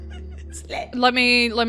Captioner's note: laughs